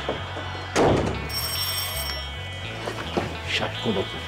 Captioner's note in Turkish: Kapı zili sesi